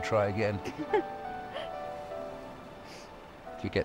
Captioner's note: Caroline laughing